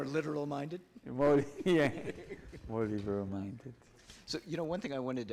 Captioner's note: laughs